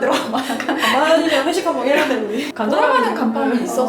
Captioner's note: laughing